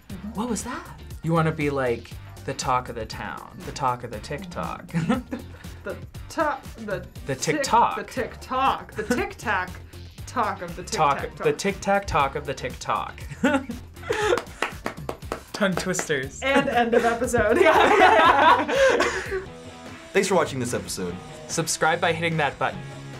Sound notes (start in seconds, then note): 4.9 chuckles; 13.2 chuckles; 14.1 React claps; 16.4 both laugh